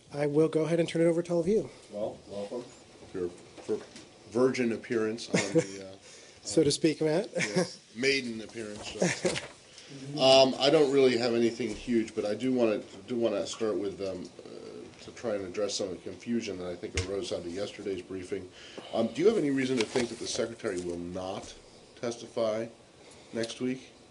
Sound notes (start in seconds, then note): 8.9 laughter